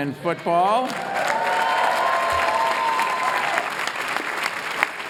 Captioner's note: applause